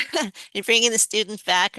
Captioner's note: laughter